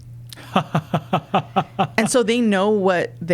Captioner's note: laughing